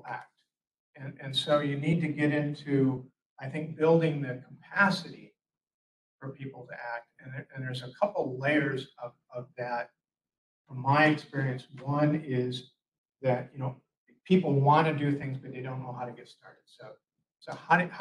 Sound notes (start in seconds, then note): none